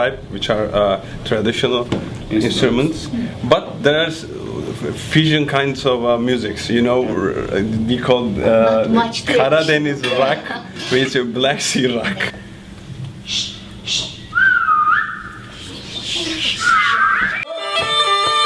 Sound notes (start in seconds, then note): 13.8 whistles; 17.4 traditional music